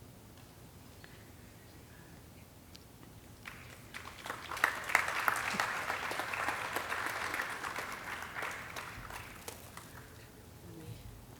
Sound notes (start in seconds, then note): 3.4 audience clapping